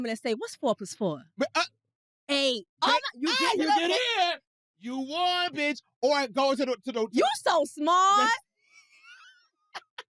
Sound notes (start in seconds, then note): 2.9 shrieks